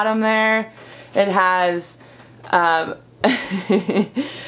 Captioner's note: laughs